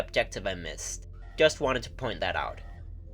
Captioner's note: voiceover